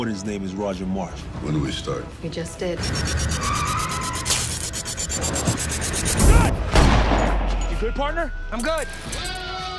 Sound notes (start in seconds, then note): 2.4 dramatic music; 6.6 gun fires; 6.9 yelling